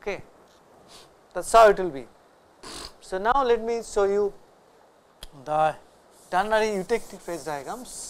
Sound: vocalized noise

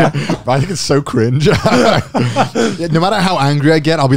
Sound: chuckling

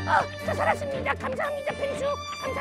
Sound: coughing

